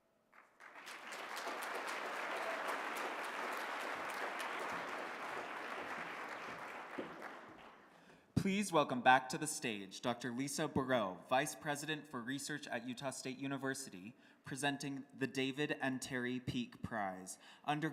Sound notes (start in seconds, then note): 0.2 applause